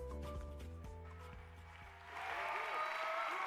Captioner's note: applause